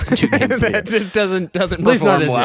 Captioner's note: laughing